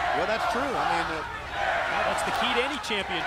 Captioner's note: crowd cheering